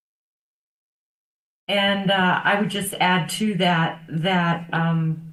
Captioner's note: none